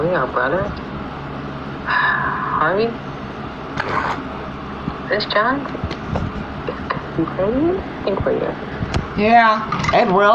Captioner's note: sighs